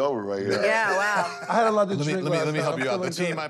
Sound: laughs

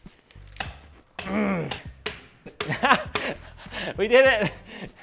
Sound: grunts

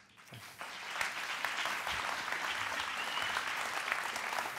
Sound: applause

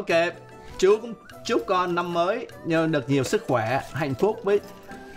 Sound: speaking foreign language

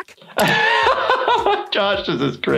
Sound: laughing

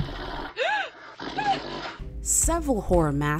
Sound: woman gasping

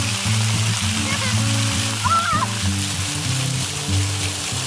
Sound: child cheers

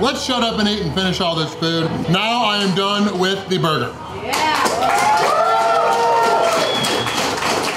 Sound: crowd cheering

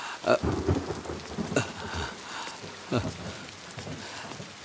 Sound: bird flapping wings

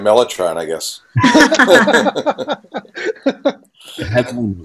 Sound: all laughing

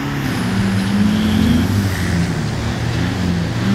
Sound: none

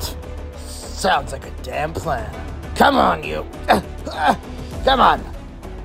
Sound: struggling

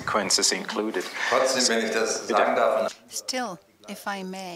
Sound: speaking german

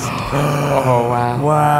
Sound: gasping

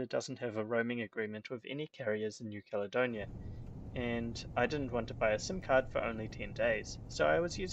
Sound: road noise in background

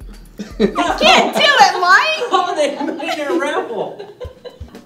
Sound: laughing

